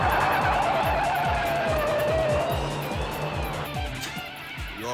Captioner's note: tires screeching